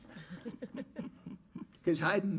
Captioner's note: audience laughs